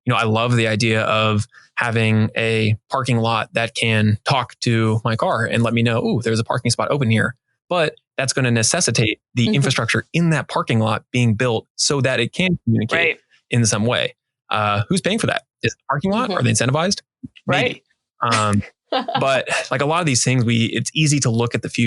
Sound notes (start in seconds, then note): 19.0 laughing